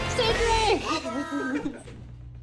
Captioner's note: giggling